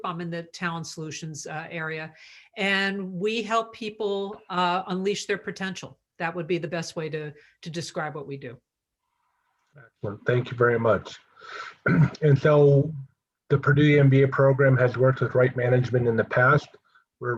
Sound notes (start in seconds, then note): 11.8 cough